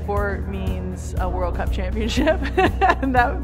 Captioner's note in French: rire